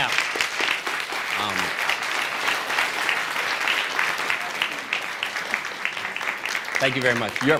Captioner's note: applause